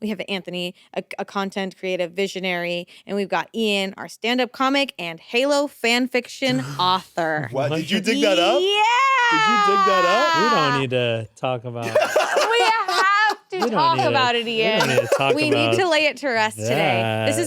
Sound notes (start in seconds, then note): 11.8 laughs